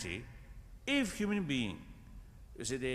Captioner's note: none